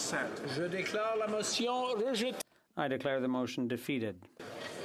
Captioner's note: speaking French